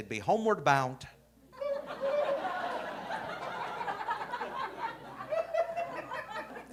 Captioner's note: audience laughing